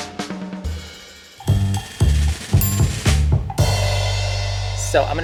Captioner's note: bell dinging